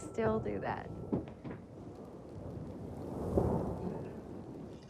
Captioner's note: le tonnerre gronde